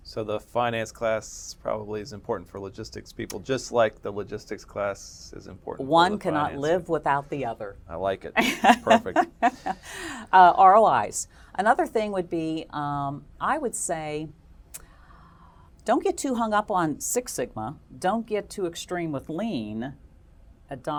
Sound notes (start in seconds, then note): 8.4 laugh